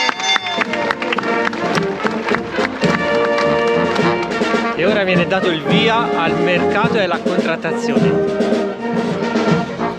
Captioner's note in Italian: Applauso